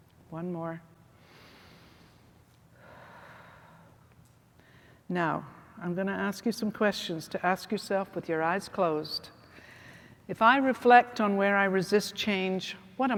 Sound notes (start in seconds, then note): 1.2 exhales; 2.8 inhales